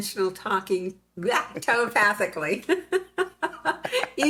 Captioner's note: laughs